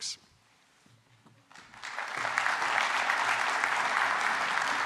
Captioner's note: applause